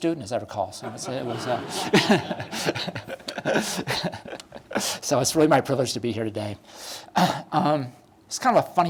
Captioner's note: laughter